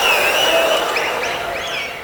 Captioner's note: wild applause and cheering for 22 seconds